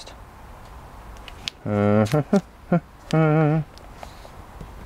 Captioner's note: humming